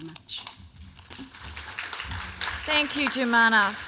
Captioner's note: applause